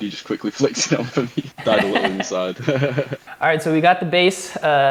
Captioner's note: laughing